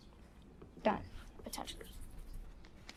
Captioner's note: students whisper